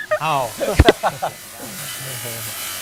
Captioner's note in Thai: เสียงหัวเราะ